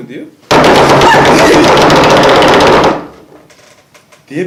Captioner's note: knock knock knock knock knock knock